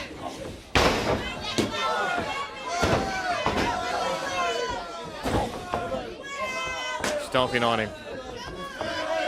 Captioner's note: crowd chatter